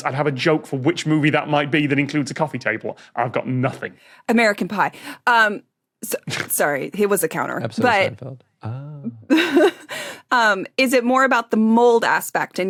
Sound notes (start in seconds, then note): 6.0 snorts; 9.2 giggles